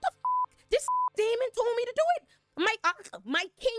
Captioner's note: beep